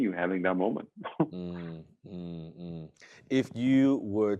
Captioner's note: chuckles